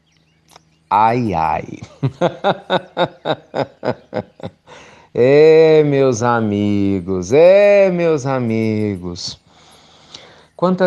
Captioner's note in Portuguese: Risos